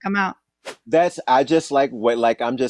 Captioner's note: whooshing sound